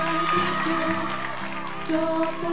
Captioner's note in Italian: Applauso